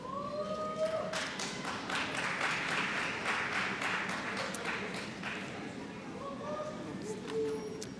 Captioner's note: applause